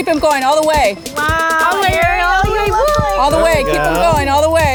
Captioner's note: group cheers